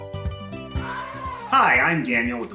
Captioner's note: upbeat music; elephant trumpets